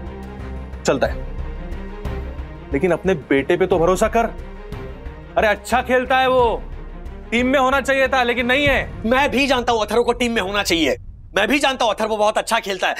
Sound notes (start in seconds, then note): none